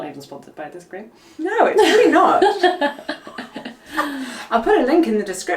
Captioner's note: both laughing